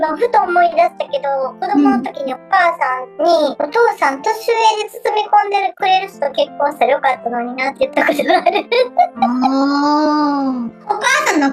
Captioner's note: laughs